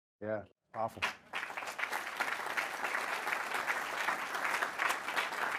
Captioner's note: audience clapping